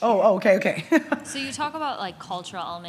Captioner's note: chuckles